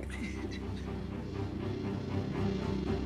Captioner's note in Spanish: Sollozos